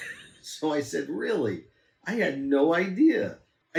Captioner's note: laughs